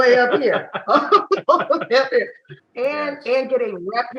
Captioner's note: everybody laughing